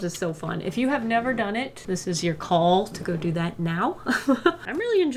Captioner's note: laughs